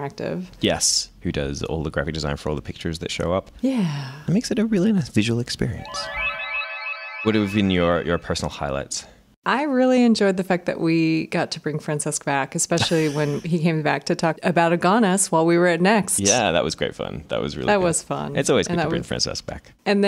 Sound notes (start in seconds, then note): 5.6 twinkling sound